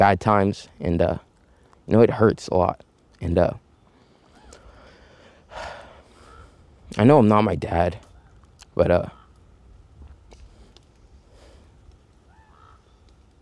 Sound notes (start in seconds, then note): 4.2 sighs